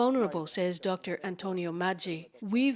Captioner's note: speaking Foreign Language